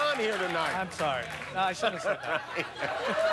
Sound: laughter

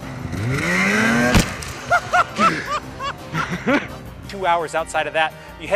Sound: laughter

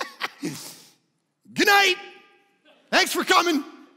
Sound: laughing; congregation laughing

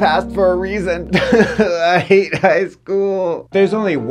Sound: crying

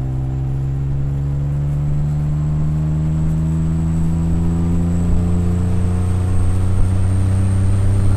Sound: extremely long acceleration in one gear

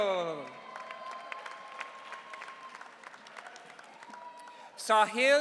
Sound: audience cheering

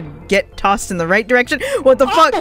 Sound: gasp

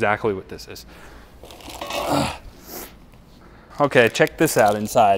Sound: grill rattling

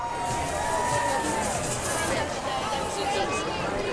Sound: distant cheering

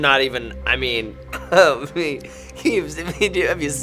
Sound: nervous laughing

